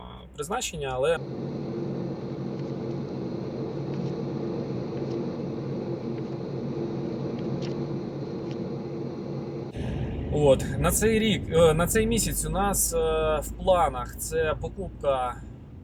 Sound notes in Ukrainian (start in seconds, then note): 0.9 тихий шум двигунів